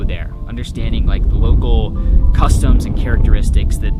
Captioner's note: wind blowing